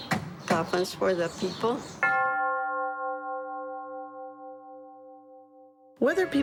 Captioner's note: bell tolls